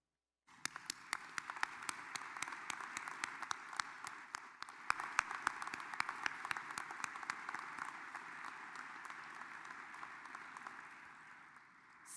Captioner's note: applause